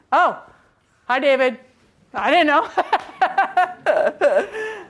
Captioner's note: laughs